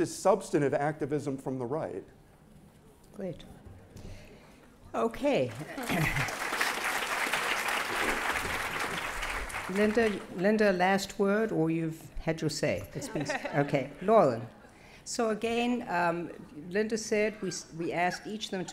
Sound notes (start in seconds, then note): 5.4 applause